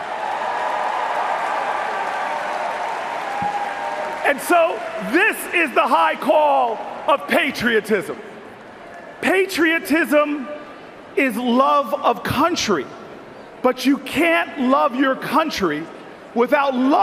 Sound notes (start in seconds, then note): 6.9 cheers and Applause